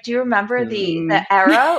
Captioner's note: laughs